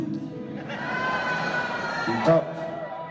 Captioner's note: audience laughs and 'nos' jokingly